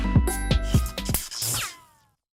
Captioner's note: electric zapping